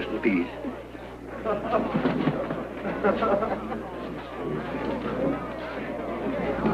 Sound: laughter

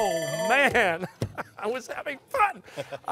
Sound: timer sounding

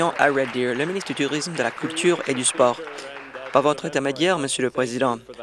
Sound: applause

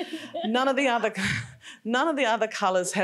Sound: laughing; laughs

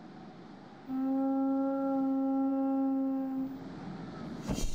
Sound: conch shell blowing

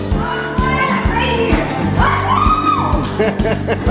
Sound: cheering

